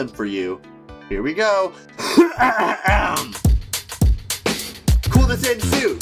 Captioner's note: clearing throat